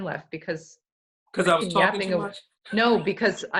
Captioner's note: laughs